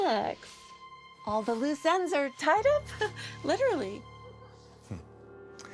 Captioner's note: laughs